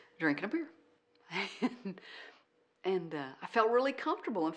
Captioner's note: laughs